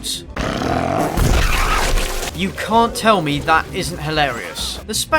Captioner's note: fart explosion